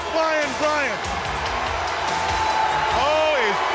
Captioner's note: crowd cheering